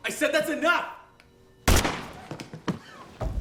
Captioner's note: gunshot